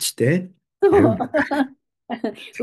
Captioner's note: laughs